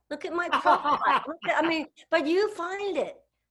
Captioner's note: laughs